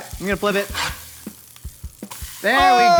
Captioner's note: beef sizzles